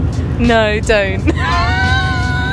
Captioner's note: laughs